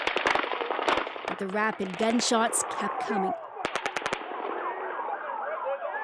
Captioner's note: gunshots